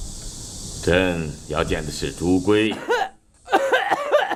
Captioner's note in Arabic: سعال